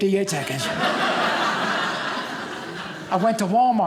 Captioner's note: audience laughing